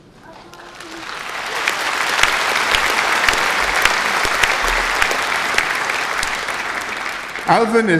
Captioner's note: applause